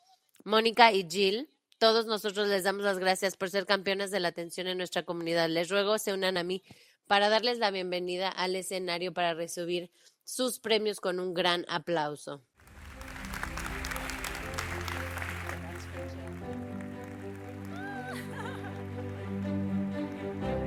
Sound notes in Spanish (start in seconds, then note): 12.6 aplausos; 18.0 música energética